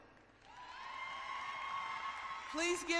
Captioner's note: cheering